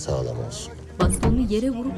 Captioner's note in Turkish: Bastonla vurma sesi